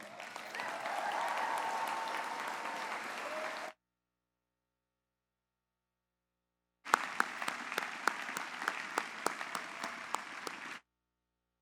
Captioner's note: applause